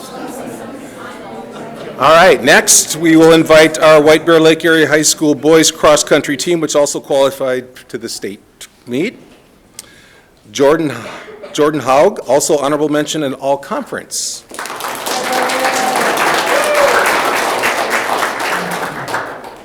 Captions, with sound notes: - All right next we will invite our White Bear Lake Area High School Boys Cross Country Team, which also qualified to the state meet. Jordan Haag also Honorable Mention in All-Conference. (audience clapping)